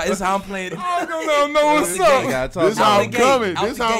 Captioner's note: laughing